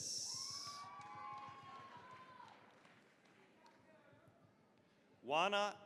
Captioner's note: cheering, applause